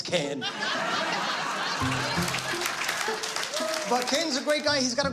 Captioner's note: laughter